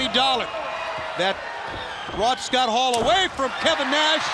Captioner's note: crowd cheering